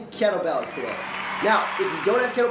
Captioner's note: audience cheers